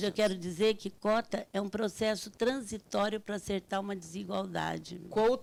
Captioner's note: speaking Portuguese